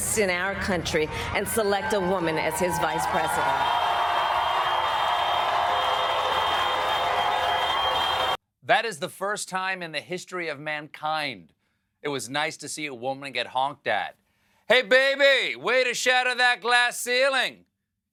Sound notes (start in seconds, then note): 6.4 cars honking